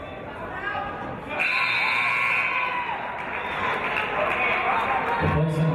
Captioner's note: cheers and applause; buzzer